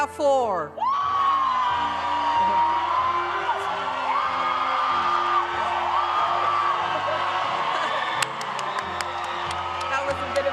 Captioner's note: applause